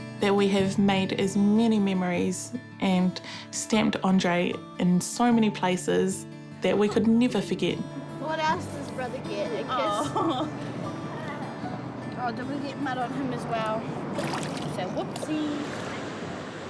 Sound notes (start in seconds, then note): 9.8 chuckles